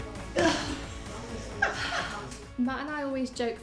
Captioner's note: laughing